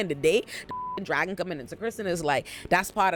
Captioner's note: beep